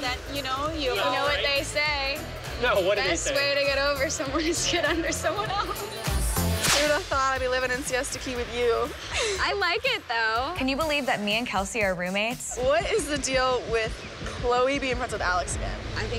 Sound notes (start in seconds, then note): 2.3 laughs; 8.8 laughs